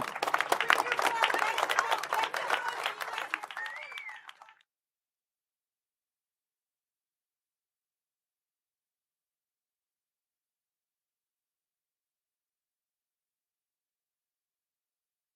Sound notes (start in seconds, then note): 4.6 applause